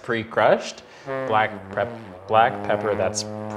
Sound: horn blowing

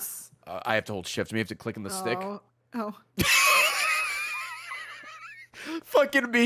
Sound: laughs

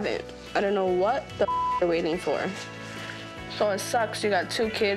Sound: beep

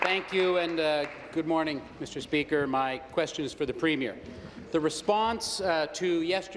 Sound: applause

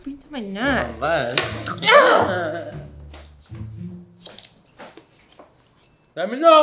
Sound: wife groans in frustration

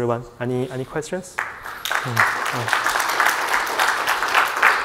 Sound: audience clapping

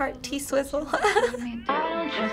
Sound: chuckling

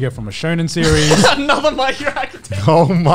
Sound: laughs

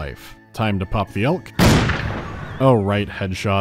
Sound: pop

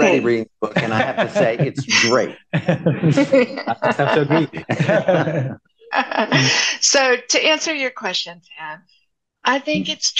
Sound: laughter

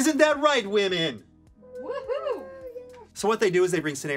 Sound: crew whoops

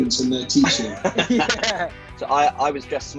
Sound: laughing

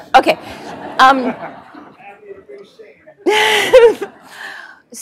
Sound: laugh

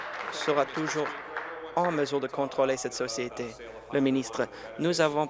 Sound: applause

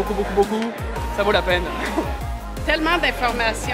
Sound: laughs

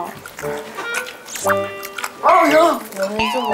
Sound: chewing

